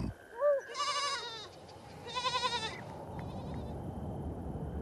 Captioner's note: bleeting